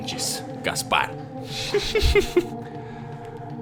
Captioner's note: chuckles